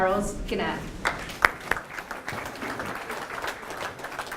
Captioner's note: applause